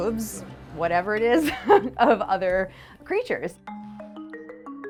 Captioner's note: laughs